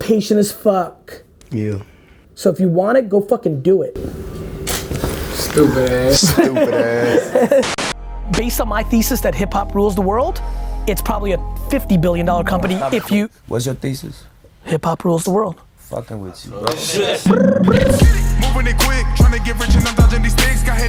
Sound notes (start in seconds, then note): 5.5 laughing; 17.4 imitates ringing noise